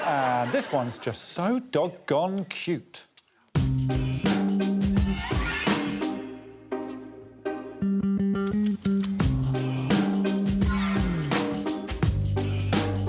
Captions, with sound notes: Yes, and this one's just so dog-gone cute. [tense music] [rattle imitating dog shaking] [tense music]